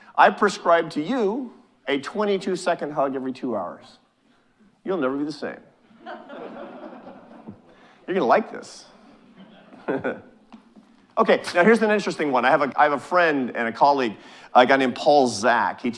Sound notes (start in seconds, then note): 5.9 audience chuckling